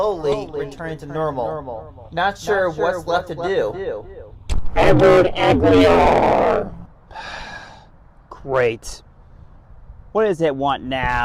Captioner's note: sighs and gasps